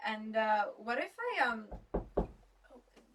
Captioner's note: there is a knock at the door